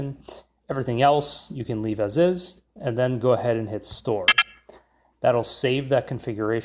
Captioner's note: system beeps